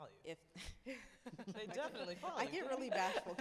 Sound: laughs

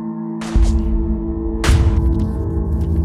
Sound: gun booming; ominous music continues

